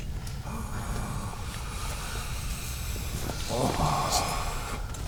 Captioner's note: agonizing moan